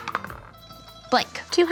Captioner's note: dice roll